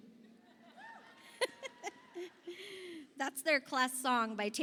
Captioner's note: principal chuckles